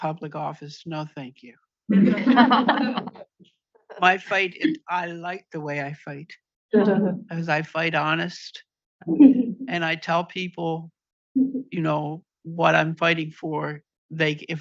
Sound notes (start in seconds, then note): 1.9 audience laughs